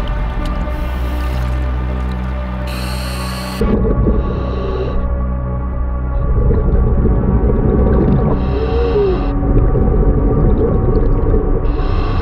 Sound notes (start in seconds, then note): 3.9 dramatic music; 3.9 water bubbling